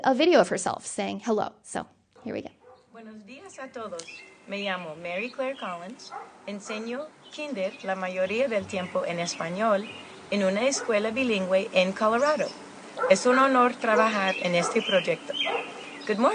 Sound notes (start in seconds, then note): 3.2 speaking Spanish